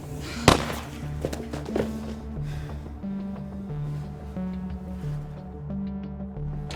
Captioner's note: tense music; gunshot echoing